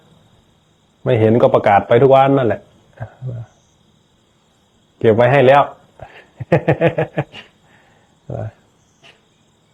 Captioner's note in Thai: เสียงหัวเราะ